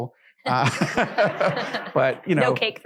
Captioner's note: laughing